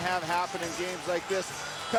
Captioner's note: cheers & Applause